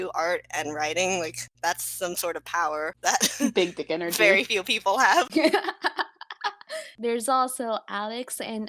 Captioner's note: laugh